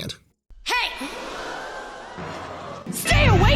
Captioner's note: all gasping